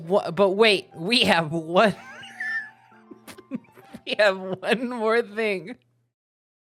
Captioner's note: wheeze laughing